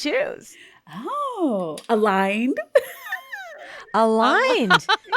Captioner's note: laughing